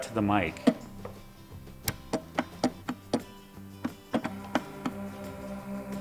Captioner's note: upbeat guitar music; clicking; gentle, steady whirring